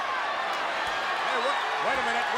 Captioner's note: audience cheers